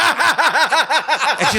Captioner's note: laughing